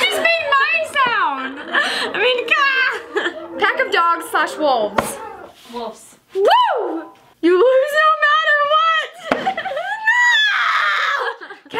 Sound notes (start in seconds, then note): 9.5 laughs